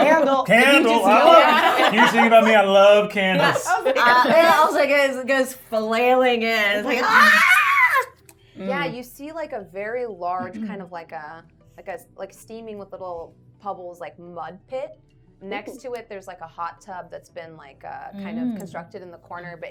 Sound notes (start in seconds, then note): 6.8 yells